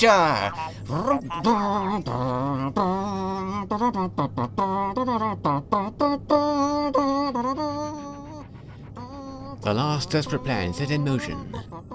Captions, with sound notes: *hums Back to the Future theme* The last desperate plan set in motion